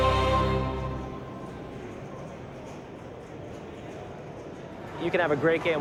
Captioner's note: arcade ambience and chatter